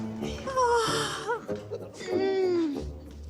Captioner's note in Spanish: Bostezo